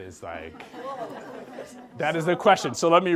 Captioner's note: group laughs